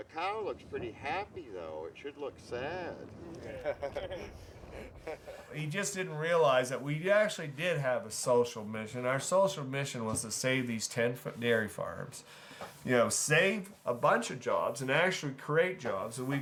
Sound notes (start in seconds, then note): 3.2 men laughing